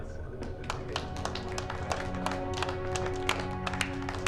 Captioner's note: applause